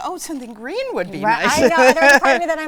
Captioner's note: laughing